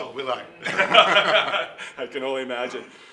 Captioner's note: laughing